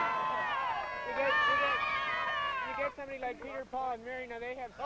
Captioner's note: crowd cheering